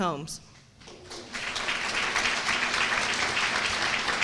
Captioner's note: applause